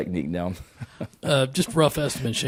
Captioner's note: Shane laughs